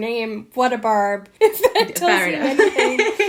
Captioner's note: laughing